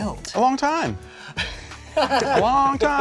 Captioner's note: laughs